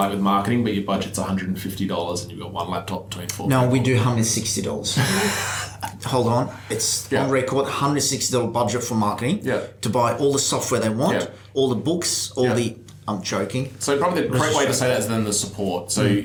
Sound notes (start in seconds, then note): 4.9 laughs